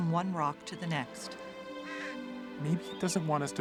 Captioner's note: bird cawing